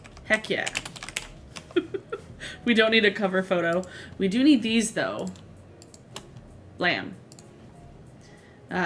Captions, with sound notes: Heck yeah. (laughs) We don't need a cover photo. We do need these though. Blam.